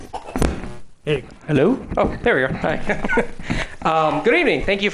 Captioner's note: laughs